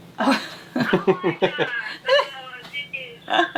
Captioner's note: laughing